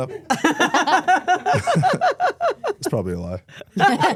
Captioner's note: everyone laughs